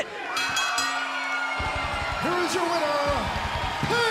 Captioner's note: bell ringing